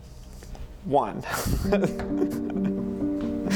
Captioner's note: laughs